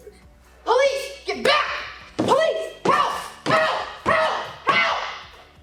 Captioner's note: screaming in defense